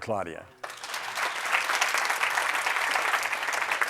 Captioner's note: applause